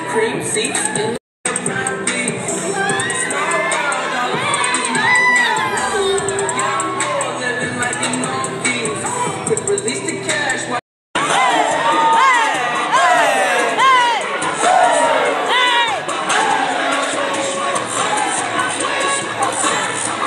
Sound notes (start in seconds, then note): 1.1 singing; 12.1 chanting; 16.6 rapping